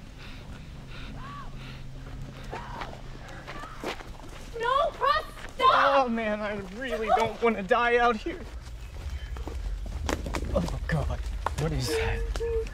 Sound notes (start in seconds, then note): 0.7 girl terror screams